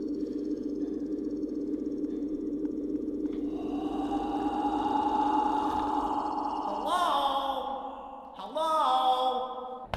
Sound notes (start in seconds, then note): 3.4 loud breathe